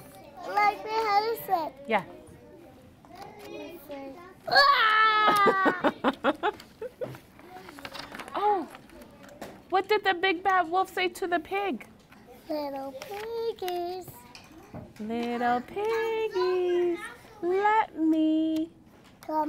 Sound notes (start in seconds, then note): 4.5 yells; 5.0 laughs